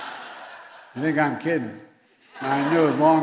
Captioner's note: laughter